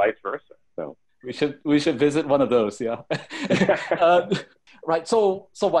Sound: chuckles

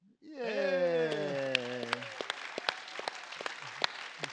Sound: applause

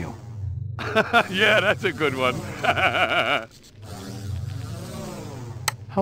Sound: laughing

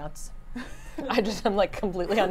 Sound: laughs

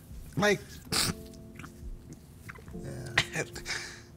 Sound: sobbing

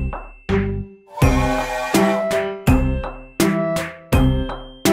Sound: whistle tooting

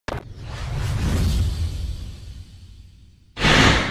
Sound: techno whirring

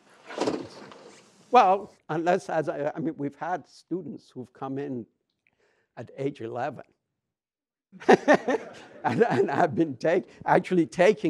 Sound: laughs

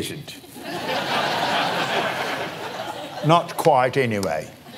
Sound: British accent; laughs

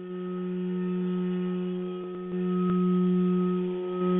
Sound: vibrating tone

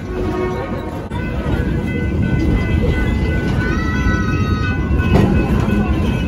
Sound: rail road crossing bells

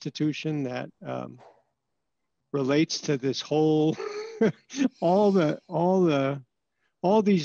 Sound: laughter

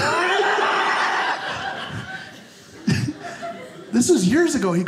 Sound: audience laughing

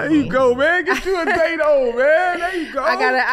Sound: Amber laughs

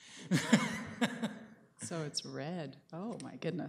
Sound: laughter

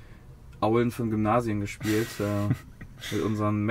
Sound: laughter

